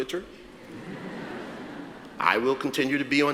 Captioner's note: audience laughs